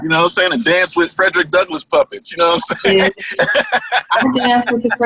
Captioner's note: laughter